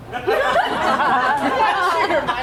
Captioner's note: audience laughs